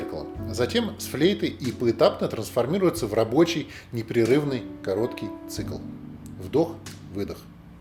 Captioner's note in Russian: вдох – выдох